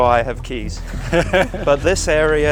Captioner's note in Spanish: ríe